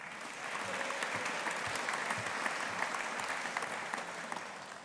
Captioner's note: audience applauding